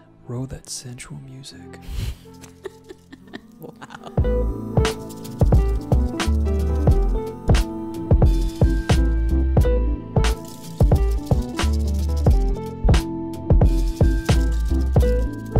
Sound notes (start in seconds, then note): 2.1 laughs; 4.3 sensual music